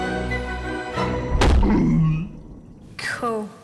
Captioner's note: grunts